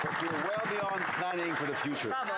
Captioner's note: some Applause